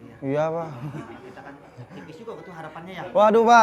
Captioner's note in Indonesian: tertawa